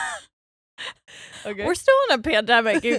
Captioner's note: chuckling